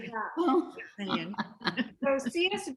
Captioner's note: laughter